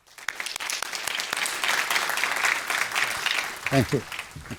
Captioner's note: audience applauding